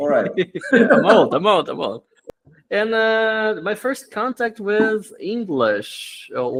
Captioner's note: laughs